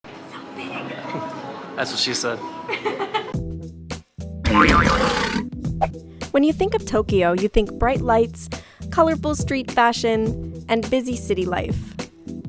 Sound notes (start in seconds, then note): 4.5 laughs